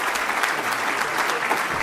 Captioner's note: applause